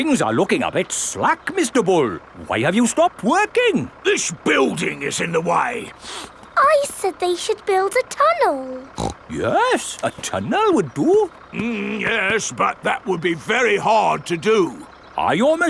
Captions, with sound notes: Hmm, things are looking a bit slack, Mr. Bull! Why have you stopped working? This building is in the way! (SNIFFS) I said they should build a tunnel! (SNORTS) Yes, a tunnel would do. Mmm, yes, but that would be very hard to do.